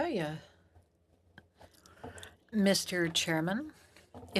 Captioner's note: speaking French